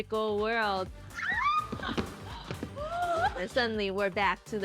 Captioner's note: both shriek